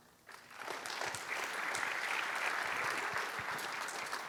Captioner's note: applause